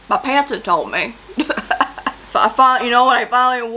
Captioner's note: laughs